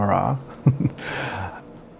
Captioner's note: chuckles